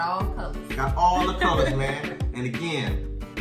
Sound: laughing

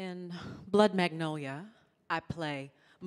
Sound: none

